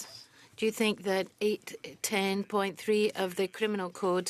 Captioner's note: speaking French